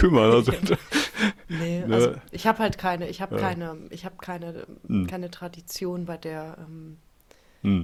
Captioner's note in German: gelächter